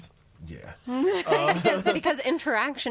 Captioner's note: all laughing